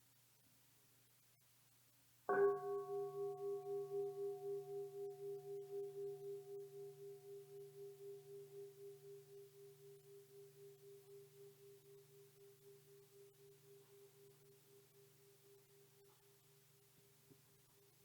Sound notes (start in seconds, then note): 2.6 bell gongs